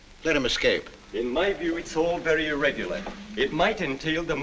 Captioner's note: voice from background